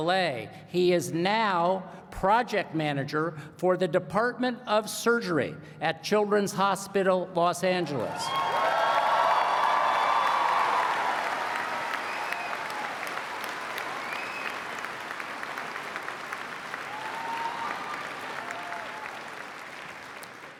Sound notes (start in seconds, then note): 8.0 applause